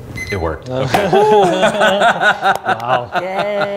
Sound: laughing

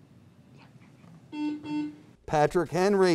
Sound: buzzer beeps

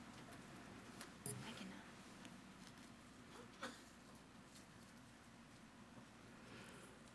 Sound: speaks faintly

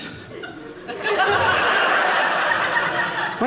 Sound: audience laughing

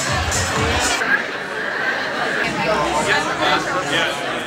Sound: crowd ambience

